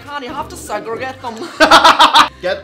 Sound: explosive laughter

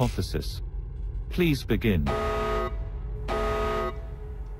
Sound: beeping

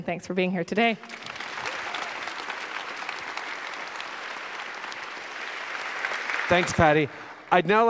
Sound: applause

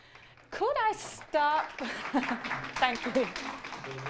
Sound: clapping

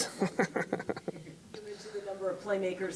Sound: laughing

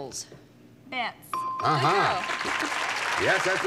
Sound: bell; applause

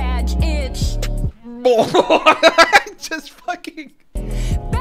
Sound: laughing

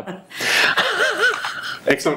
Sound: laughing

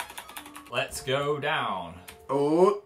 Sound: fake Texan accent

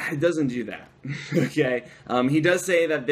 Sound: laughter

